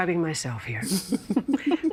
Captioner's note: laughing